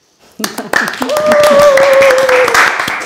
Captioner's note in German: Applaus, Jubel